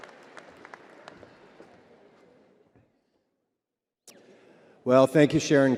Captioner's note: crowd applauding continues